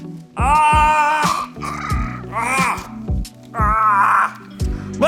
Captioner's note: Chosen yelling and choking